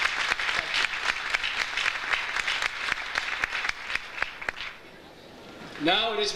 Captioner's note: audience applauds